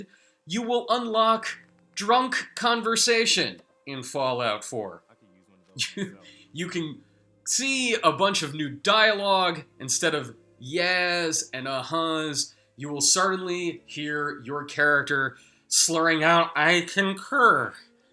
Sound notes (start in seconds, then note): 5.8 chuckles